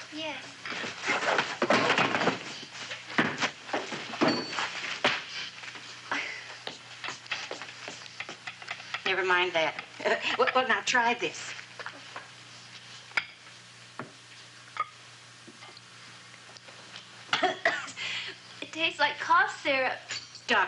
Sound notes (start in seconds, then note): 1.3 clattering; 6.1 sighing; 10.0 chuckles; 17.3 coughing